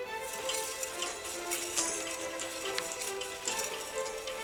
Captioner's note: wire spool rattles